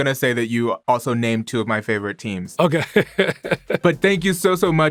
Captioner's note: laughs